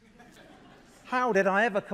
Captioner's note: laughter